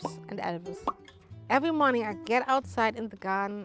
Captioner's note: mouth popping